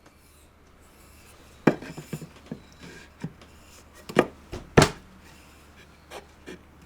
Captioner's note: sounds of hammering and assembling joints